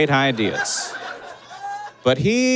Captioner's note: audience laughs